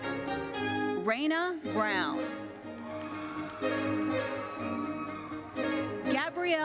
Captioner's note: audience cheers and applauds